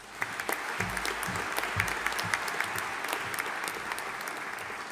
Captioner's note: audience applauding